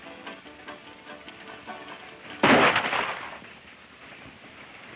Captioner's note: gun fires